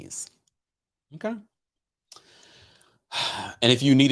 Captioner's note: sighs